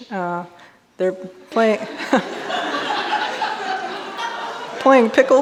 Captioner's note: audience laughing